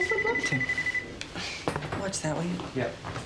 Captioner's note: telephone rings